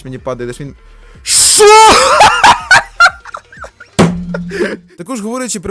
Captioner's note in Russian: смех